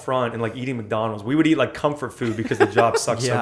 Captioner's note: laughter